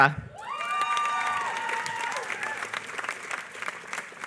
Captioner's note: applause